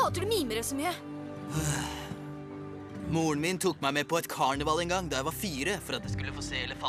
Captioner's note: sighs